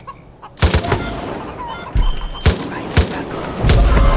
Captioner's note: gunshots; ticking